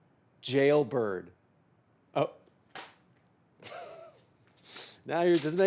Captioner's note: chuckles